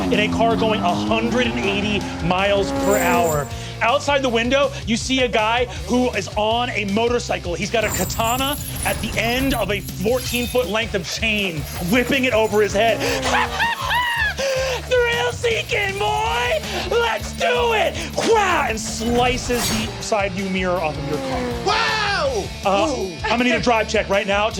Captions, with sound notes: in a car going 180 miles per hour. Outside the window, you see a guy who is on a motorcycle. He's got a katana at the end of a 14-foot length of chain, whipping it over his head. (cackling) "Thrill-seeking, boy! Let's do it!" Wham! And slices the side-view mirror off of your car. - Whoa! - I'm going to need a Drive check right now